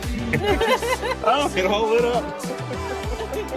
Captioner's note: laughter